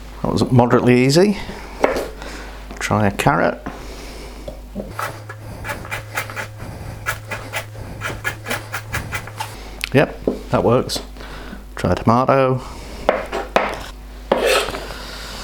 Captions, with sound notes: That was moderately easy. Try a carrot [ MORE CHOPPING ] Yep, that works. Try a tomato...